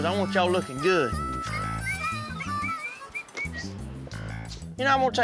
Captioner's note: door opens, whistling